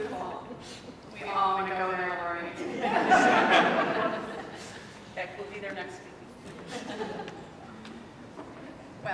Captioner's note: laughter